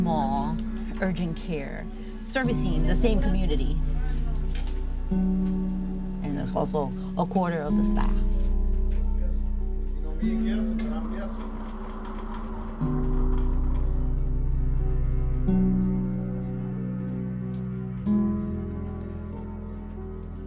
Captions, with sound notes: to this very small Urgent Care, servicing the same community. And there's also a quarter of the staff. (background hospital chatter) (gentle music)